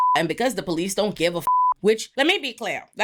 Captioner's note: beep